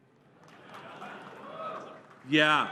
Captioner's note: cheers